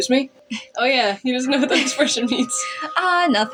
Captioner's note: giggle